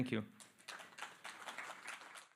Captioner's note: applause